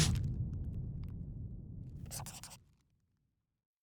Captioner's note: scribbling